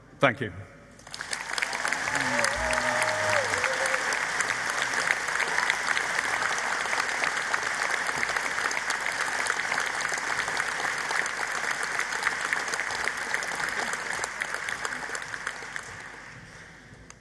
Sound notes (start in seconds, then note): 1.2 applause